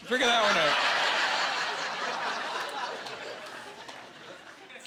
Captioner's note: laughing